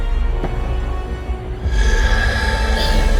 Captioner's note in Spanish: la llama se enciende